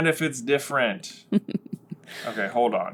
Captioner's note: quiet evil giggle